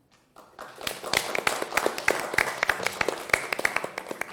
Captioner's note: applause